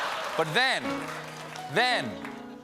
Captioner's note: laughter; piano riff